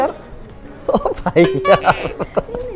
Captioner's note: chuckle